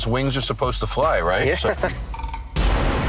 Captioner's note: chuckles